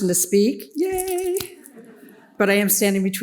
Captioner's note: audience laughs